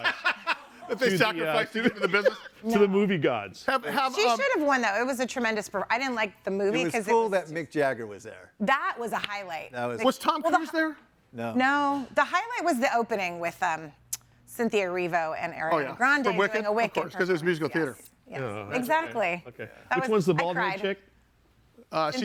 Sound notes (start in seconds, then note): 1.6 laughing